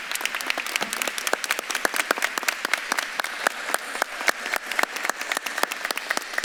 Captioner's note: audience clapping; faintly speaks